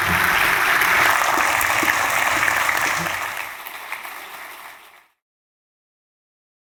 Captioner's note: applause